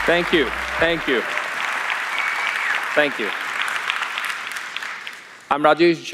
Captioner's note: applause